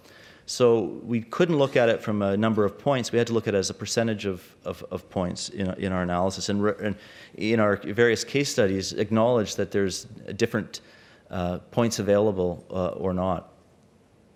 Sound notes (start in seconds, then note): none